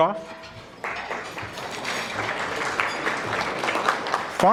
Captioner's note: audience clapping